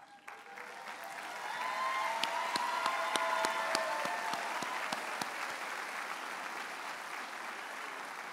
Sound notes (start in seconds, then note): 0.0 audience applauds and cheers